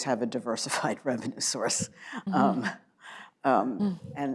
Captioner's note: laughs